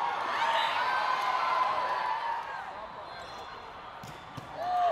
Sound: players cheering

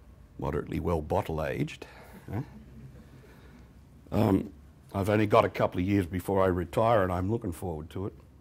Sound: laughter

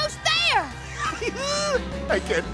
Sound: giggling

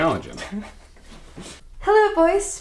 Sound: Jonathan laughs

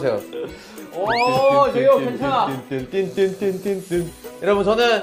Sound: self turning and sound effects

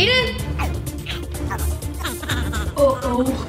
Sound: gibbering

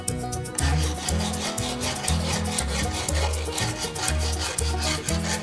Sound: wood scraping

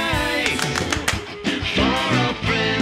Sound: hands clapping

